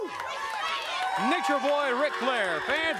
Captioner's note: crowd cheering